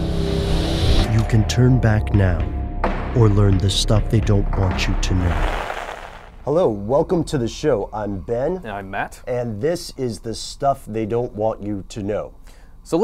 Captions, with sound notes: - [Voiceover] You can turn back now or learn the Stuff They Don't Want You to Know. - Hello, welcome to the show, I'm Ben. - And I'm Matt. - And this is the Stuff They Don't Want You to Know.